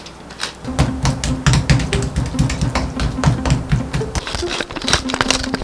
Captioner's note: tap tap tap